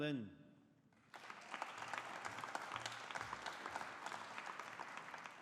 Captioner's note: audience applauding